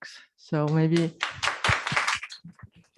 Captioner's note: applause